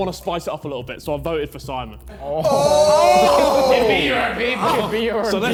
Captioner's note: men cheering